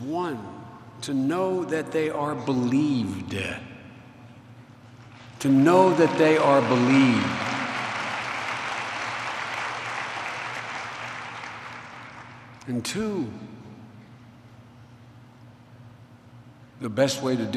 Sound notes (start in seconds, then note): 5.4 applause